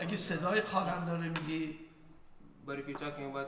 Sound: speaking in farsi

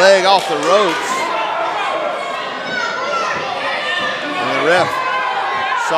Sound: crowd yelling

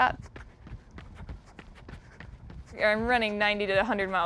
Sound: foot steps

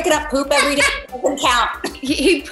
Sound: Jodie laughs

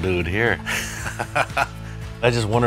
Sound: laughs

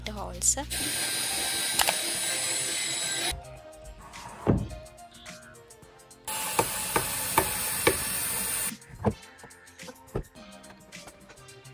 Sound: drilling sound

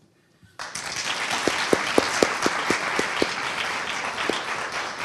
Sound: audience applauding

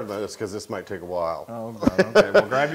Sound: laugh

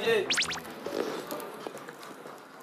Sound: slurping

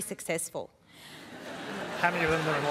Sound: laughter

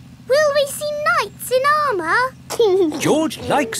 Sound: giggling

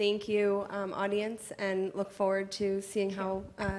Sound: none

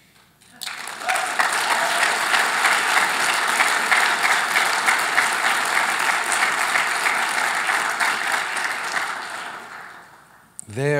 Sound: applause

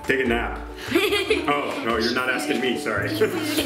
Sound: laughing

